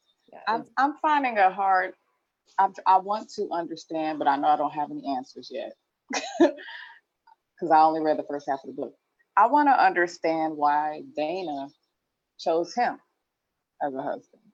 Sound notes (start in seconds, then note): 6.1 chuckles